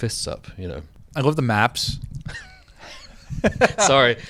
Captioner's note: both laugh